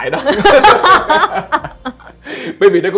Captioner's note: laugh